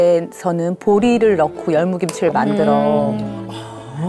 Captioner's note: salivating